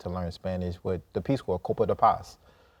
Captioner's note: in Spanish